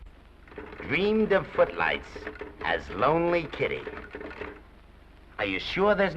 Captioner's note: typewriter chatters